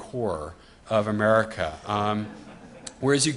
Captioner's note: audience laughs